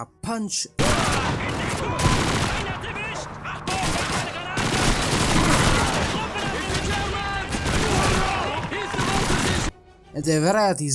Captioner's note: Shooting and Germans Crying